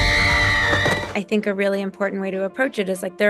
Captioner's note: woman screaming